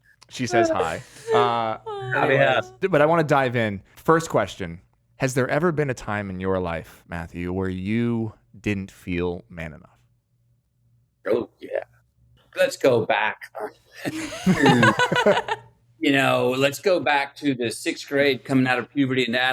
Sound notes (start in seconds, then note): 14.0 laughs